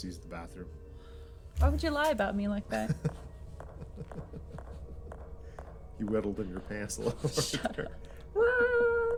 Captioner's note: laughs